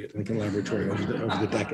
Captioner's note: laughter